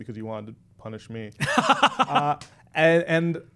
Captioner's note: laughing